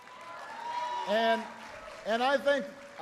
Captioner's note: applause